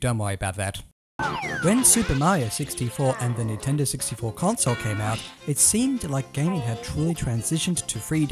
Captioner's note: cartoon falling noise followed by jaunty music